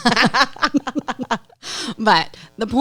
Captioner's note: laughing